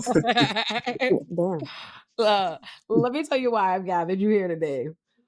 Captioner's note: laughing